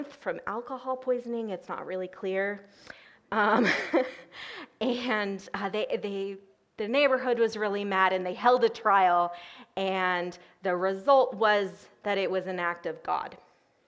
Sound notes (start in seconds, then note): 3.5 laughs